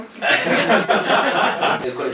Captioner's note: laughs